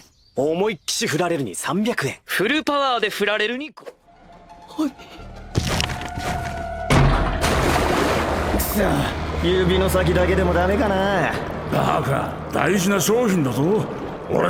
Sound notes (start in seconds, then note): 5.3 heavy footsteps; 7.3 green liquid bubbling